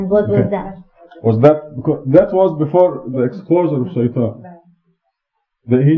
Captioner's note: speaking Farsi